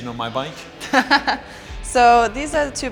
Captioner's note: laughing